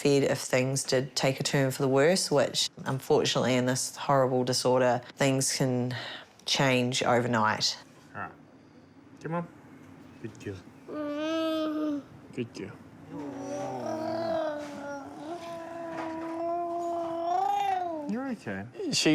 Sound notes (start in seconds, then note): 11.2 fusses; 13.1 coos, gargles